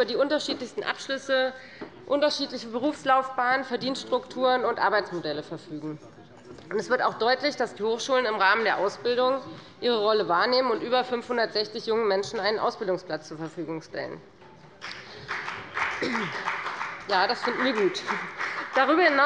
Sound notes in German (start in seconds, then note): 14.8 Beifall bei der FDP